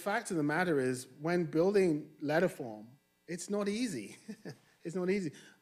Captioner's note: chuckles